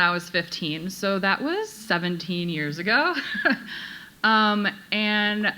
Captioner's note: chuckles